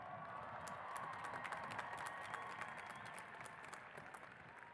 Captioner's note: cheers and applause